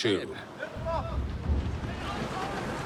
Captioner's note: sailors shouting